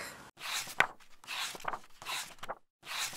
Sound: pages turning

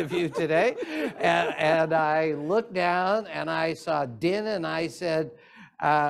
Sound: laughter

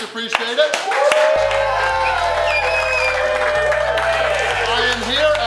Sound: crowd clapping and cheering

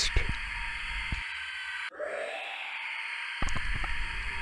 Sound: painful screeching screams

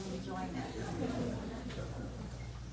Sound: audience laughs

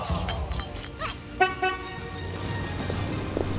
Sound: car honking

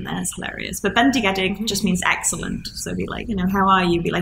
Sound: speaking Welsh

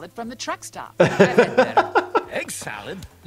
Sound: laughing

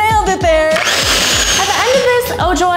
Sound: saw whirring

